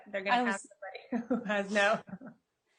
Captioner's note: faintly speaking